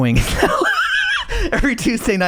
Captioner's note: laughing